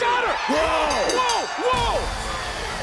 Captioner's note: bell rings; upbeat music